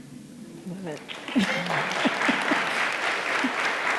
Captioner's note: audience applauding